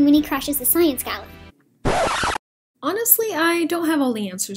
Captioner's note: record scratch | Movie pauses